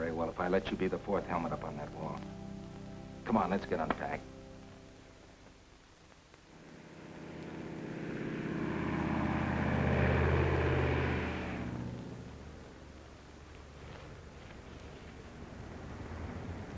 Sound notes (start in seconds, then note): 8.4 plane whirring